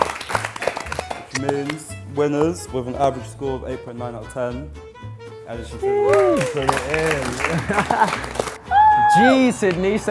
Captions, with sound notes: - Which means, winners, with an average score of 8.9 our of 10 Elias and Sydney. (group cheering and clapping) - Woo. - Gee, Sydney,